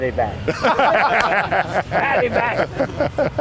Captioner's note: laughing